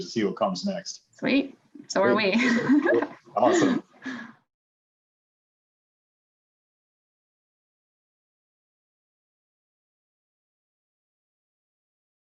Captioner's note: laughs